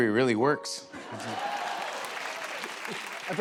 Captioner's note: applause